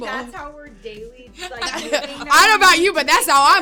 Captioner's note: laughing